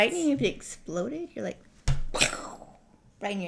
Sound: pow

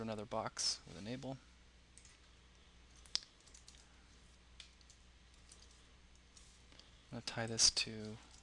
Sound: pause

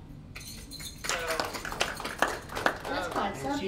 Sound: all applauding

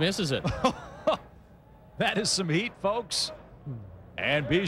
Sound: caray chuckles

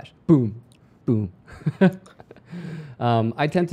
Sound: chuckles

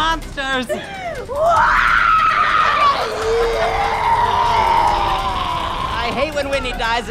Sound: shrieking

